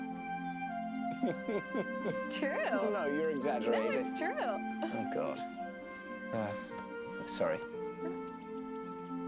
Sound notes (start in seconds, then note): 1.1 laughing; 5.2 phone buzzing